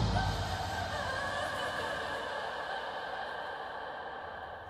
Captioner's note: Wailing